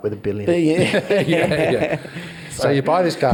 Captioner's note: all laugh